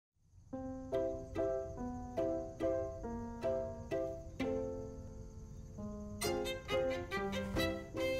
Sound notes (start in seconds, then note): 0.2 bugs chirping; 0.3 gentle music